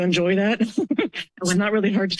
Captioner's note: laugh